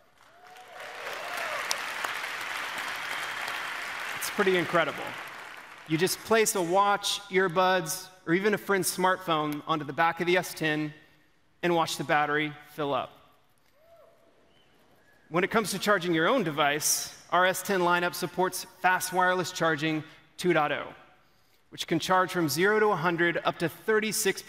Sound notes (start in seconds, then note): 5.5 applause